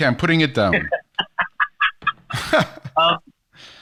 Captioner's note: laughs